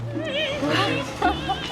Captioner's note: laughs